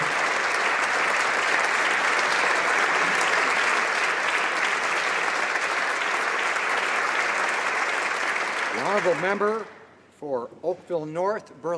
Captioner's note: applause